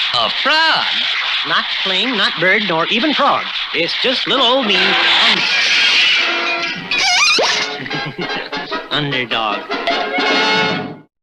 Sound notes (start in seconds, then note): 5.4 crash!; 6.8 laughs!